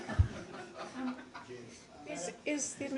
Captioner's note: laughter